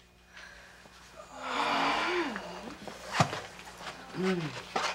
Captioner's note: students groan